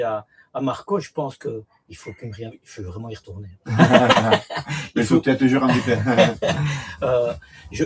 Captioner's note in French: rires